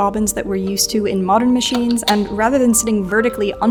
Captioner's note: bobbin clacks